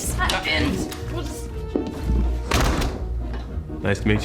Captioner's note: door opens, closes